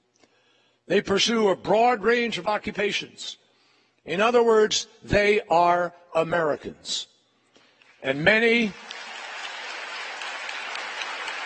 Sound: applause

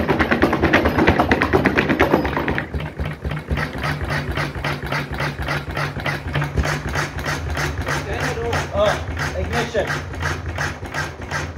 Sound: engine leaping

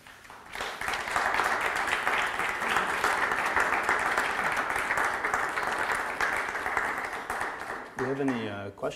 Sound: audience applause

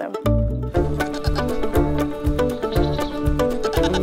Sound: goat bleats

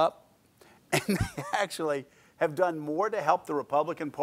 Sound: laughs

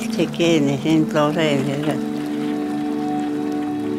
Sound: speaks other language: English translation on screen

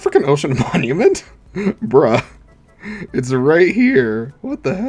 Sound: laughs

